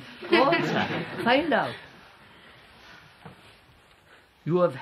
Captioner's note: laughter